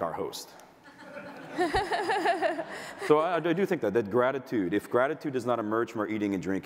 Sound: audience laughter

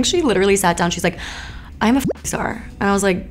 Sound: bloop

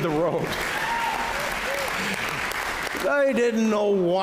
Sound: applause

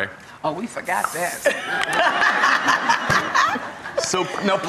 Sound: laughter

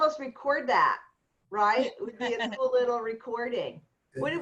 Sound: laughter

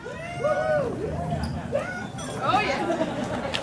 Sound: cheering

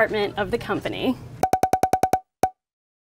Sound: sound effects

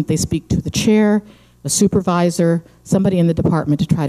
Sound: none

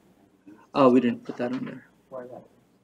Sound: indistinct chatter

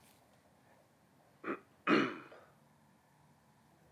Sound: clearing throat

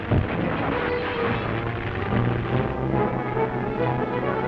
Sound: chemicals exploding; glass breaking

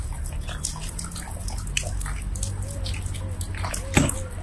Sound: water pattering

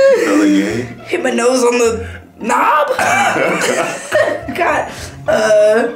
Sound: laughing; laughing

